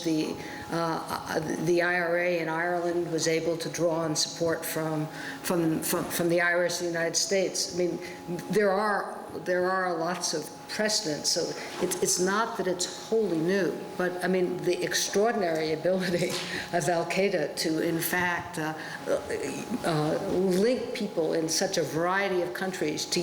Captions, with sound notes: the IRA in Ireland was able to draw on support from the Irish in the United States. I mean, there are lots of precedents. So it's not that it's wholly new. But, I mean, the extraordinary ability [CHUCKLES] of al-Qaeda to, in fact, link people in such a variety of countries,